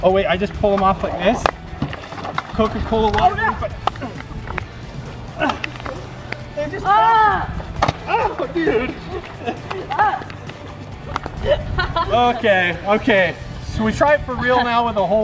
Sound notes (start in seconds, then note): 4.9 splash